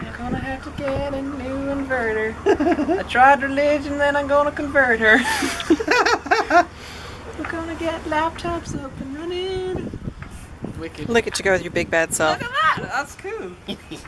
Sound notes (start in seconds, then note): 2.4 laughter; 5.1 laughter